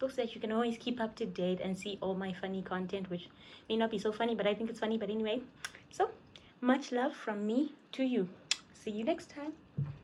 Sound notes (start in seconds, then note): 8.4 kisses